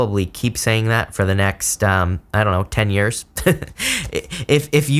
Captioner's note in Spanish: Risas